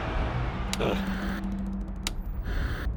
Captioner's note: grunts